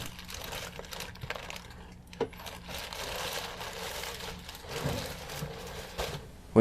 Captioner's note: rummaging noise